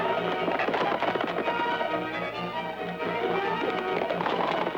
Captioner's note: hooves clacking